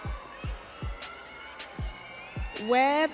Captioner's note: audience cheering